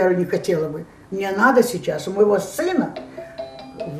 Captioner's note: phone ring